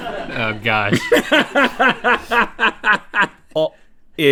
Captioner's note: laughing